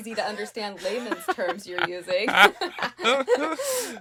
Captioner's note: laughing